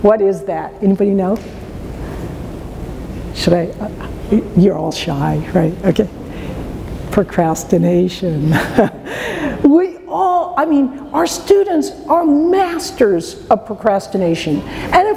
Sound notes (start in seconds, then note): 8.5 laughs